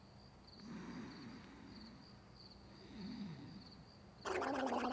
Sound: snores and sputters

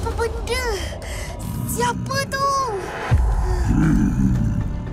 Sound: grumbles

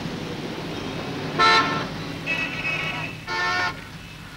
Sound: horn Honking

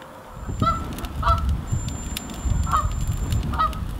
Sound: geese honking

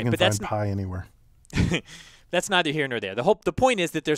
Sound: laugh

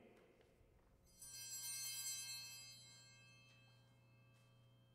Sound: bell rings

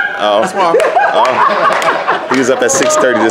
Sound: performers laugh and clap

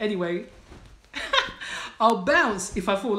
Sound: laughs

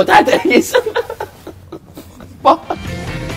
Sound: laughs

